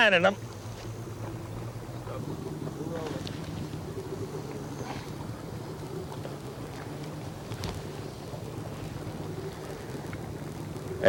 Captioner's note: water running